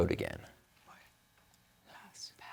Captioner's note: team whispering; whispering